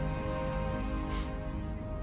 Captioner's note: Resopla